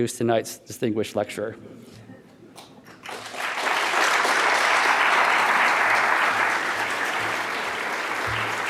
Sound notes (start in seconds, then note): 2.8 audience clapping